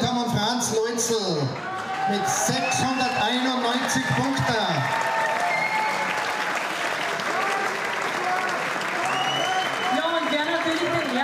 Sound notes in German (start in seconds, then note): 8.0 Jubel, Pfiffe